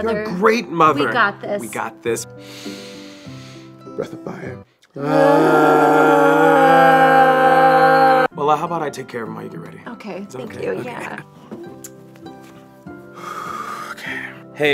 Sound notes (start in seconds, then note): 2.4 both inhaling; 4.9 both moan loudly; 12.8 lullaby music